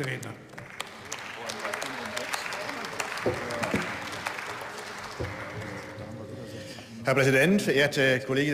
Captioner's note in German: Beifall